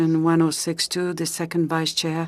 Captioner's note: speaking French